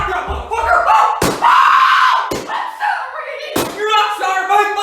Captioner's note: screaming